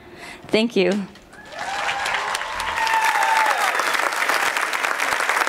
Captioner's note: applause and cheers